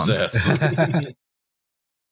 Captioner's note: laughter